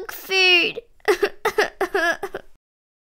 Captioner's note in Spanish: Llanto